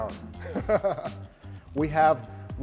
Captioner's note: laughs